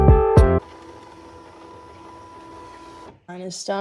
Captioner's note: sound of machine unloading